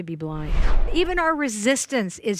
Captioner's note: air whooshing